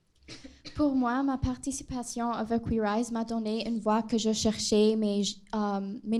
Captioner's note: speaking a foreign language